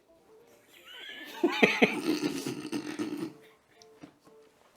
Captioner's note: laughing